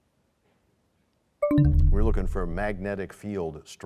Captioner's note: bell chimes, time expires